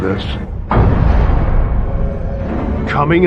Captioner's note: gun fires